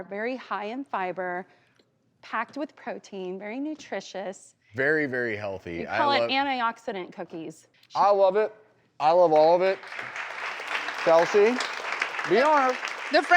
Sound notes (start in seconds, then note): 9.1 applause